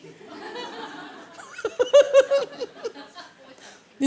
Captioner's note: laugh